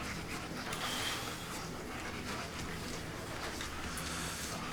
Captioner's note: dog panting